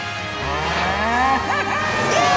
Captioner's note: mooing